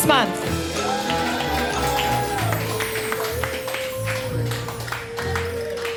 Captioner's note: spooky music; audience cheering